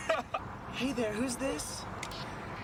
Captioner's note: laughs; in a "woman's voice"